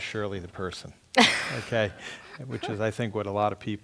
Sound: laugh

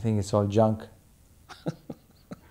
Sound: laughing

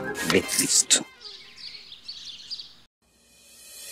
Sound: birds chirping

